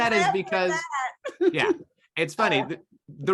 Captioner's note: laughs